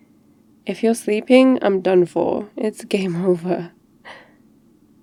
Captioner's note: laughs